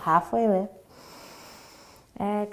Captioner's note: inhaling